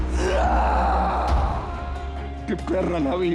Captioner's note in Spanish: Quejido